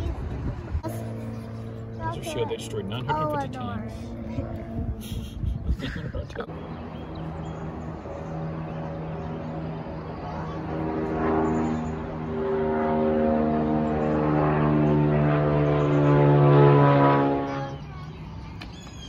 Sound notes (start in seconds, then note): 5.0 proceeds to laugh; 5.7 airplane engine noise coming from airport; 17.4 birds chirping